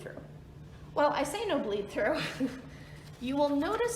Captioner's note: chuckles